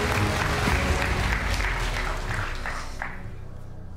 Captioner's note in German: Applaus